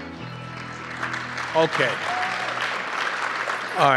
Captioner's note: applause